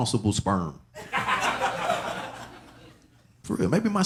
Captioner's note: audience laughing